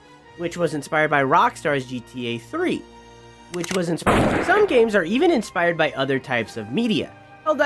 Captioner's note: gunshot